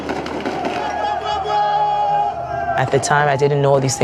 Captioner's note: soldiers shouting